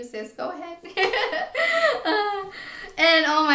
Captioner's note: laughs